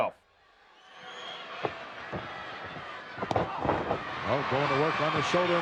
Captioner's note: crowd yelling